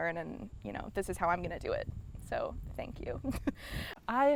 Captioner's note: laughs